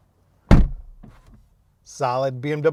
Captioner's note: car door closing solidly